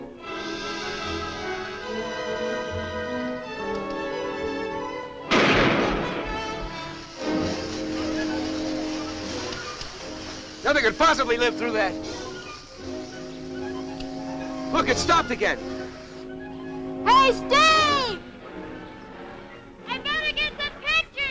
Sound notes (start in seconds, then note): 5.3 gun firing; 7.4 smoke hissing